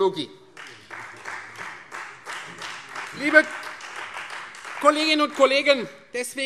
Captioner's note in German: Beifall Freie Demokraten und vereinzelt CDU